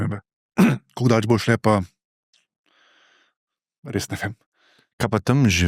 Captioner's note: coughing